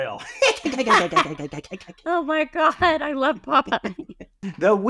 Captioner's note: Popeye the sailor man noises